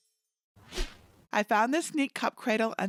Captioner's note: air whoosh